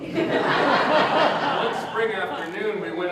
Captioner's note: audience Laughter